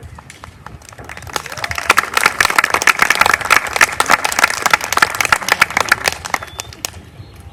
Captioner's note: applause